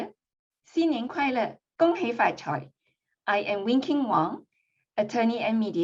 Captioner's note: non-english speech